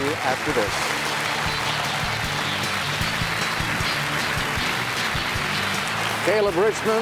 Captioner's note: applause